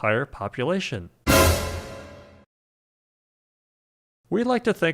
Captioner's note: surprised sound effect